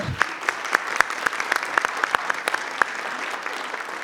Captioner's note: group applauds